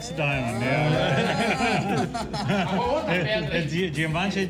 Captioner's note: laughter